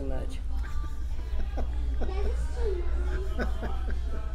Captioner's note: laughs